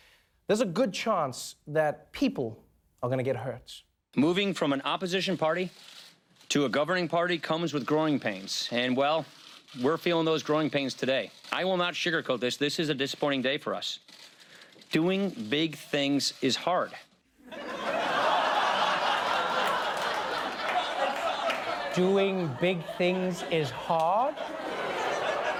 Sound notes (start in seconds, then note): 17.4 laughter